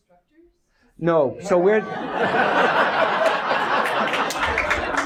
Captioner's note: audience laughs